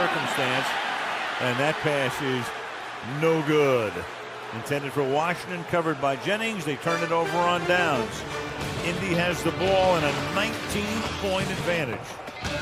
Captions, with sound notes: and 5 on the circumstance. And that pass is no good. [booing] Intended for Washington. Covered by Jennings. They turn it over on downs. Indy has the ball and a 19-point advantage.